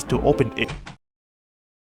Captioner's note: door open sfx